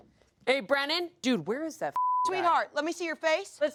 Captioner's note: beep